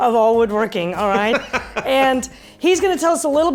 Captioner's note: laughs Loudly